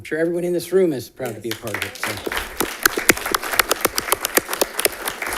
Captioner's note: all clapping